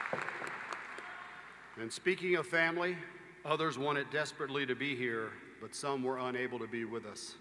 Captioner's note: applause